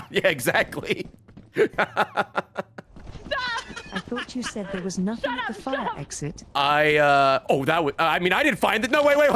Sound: laughs; laughs

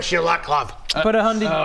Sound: mwah

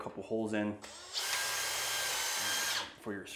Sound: drill whirs

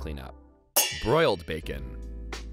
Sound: pans clanging

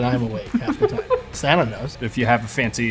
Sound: laughs

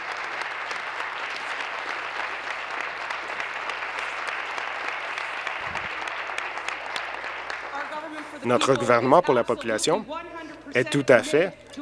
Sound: applause

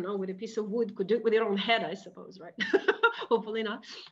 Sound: laughing

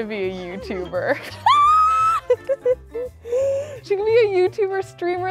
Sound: laughs

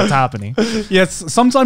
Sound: laughing

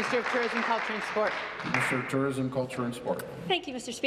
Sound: applause

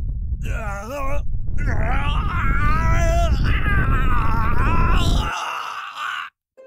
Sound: groaning in pain

